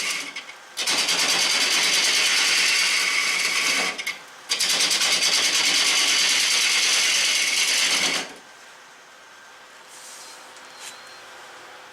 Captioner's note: noise of woodturning lathe and woodturning